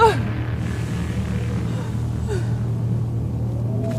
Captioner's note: Angelica sobbing